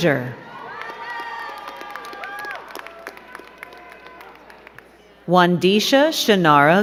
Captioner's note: crowd cheering and clapping